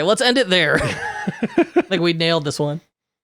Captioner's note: laughing